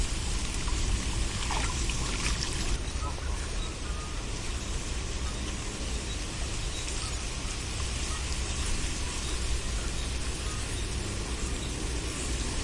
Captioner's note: birds chirping